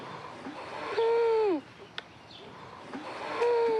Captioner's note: wheezes